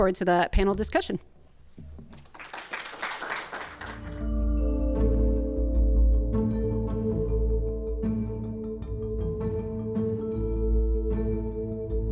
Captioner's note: applause